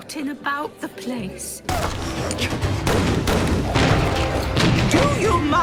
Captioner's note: gunshots